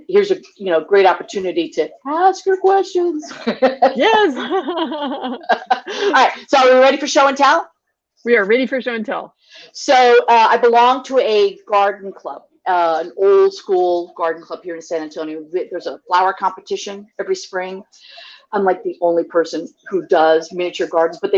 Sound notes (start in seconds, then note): 3.2 laugh